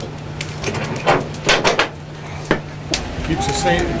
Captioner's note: door squeaking; door banging